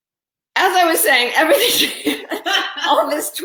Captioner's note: laughing